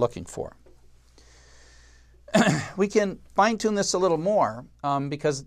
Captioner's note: cough